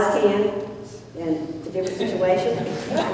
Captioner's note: laughter